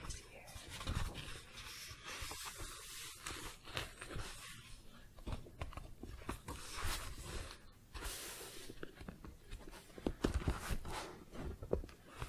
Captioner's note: book shuffling, page turning